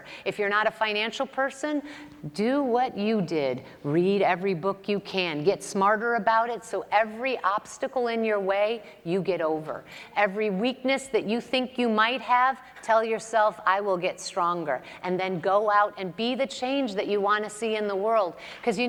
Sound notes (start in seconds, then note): none